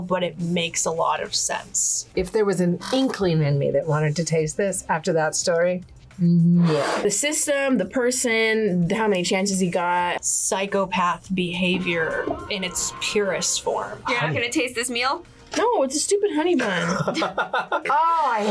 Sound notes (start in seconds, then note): 16.7 laughs